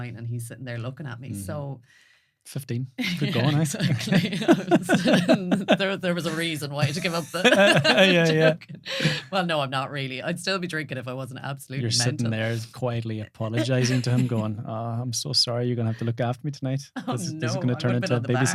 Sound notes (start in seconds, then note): 3.1 laughing